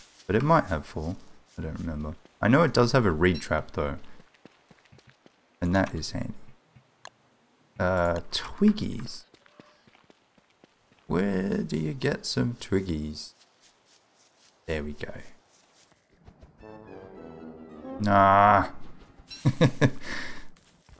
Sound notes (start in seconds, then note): 16.6 Wolfgang becoming wimpy sound; 19.3 laughs; 19.9 inhales